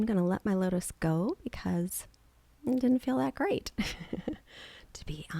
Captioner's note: chuckles